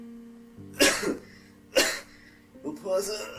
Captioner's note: coughing